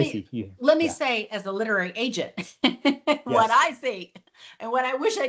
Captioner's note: laughs